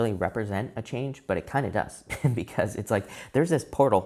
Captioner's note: chuckles